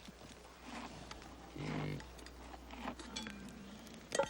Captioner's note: ox snorts